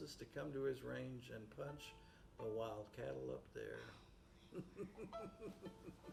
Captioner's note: laughs